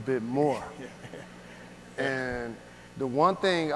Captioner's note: audience laughs